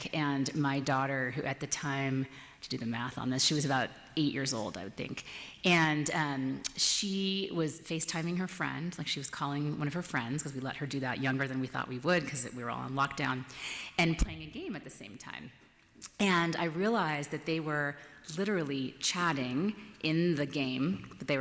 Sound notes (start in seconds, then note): none